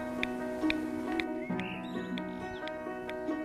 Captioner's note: clicking